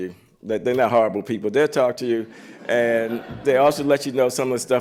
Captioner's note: laughter